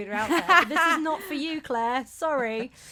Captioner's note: laughs